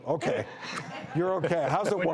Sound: audience laughs

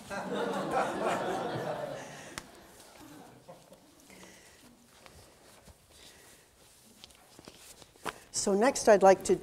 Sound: audience laughter

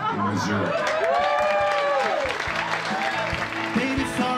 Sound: cheers and applause

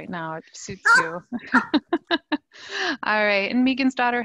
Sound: laughs

